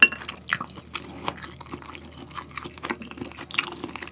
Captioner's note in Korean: 오도독 아그작